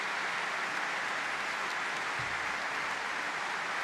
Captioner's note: applause